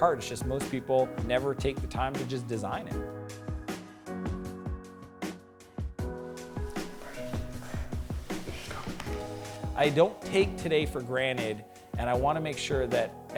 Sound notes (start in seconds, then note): 7.0 whispers